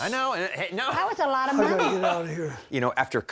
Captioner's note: laughing